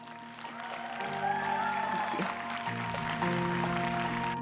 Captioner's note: applause; upbeat music